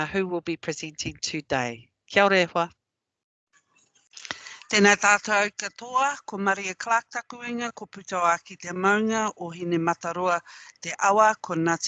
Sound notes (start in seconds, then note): 2.1 non-english; 4.3 non-english speech